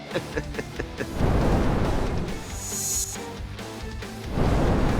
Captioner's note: laughing; flames whoosh